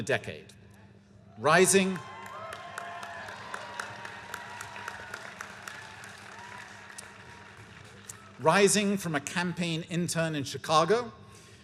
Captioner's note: cheers